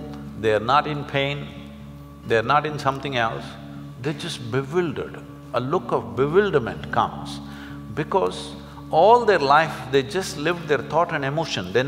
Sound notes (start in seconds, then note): none